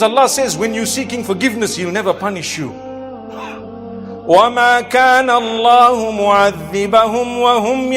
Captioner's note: recitation of Verse